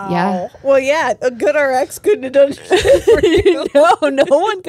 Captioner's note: laughs